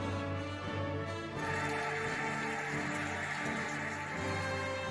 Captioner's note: cheering and applauding